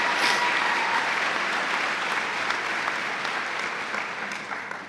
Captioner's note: cheers and applause